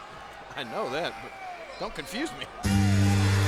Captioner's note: laughs; crowd cheering; upbeat music